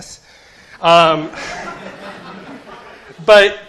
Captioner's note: laughter